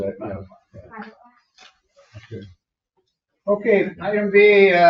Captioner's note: board members chatter